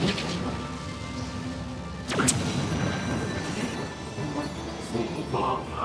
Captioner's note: explosion